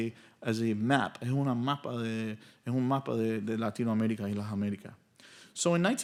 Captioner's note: speaking in Spanish